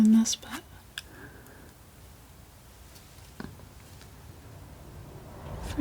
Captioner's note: scratching